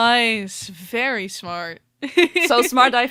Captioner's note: laughs